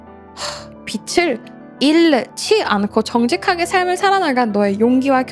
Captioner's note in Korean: 콧방귀